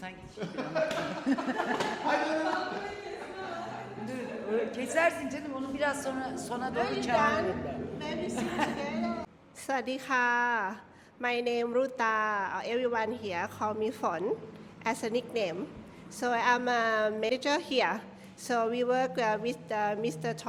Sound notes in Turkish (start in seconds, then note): 0.3 kahkaha